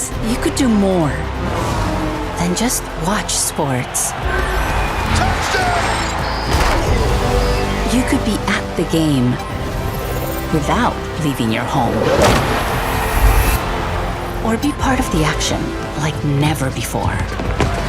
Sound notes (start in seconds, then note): 6.5 uplifting music; 12.5 crowd cheering; 17.6 dramatic music